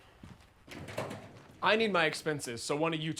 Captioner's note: feet padding; door clicks open